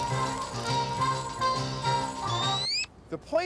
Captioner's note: fire crackling